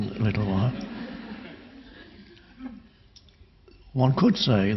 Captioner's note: audience laughing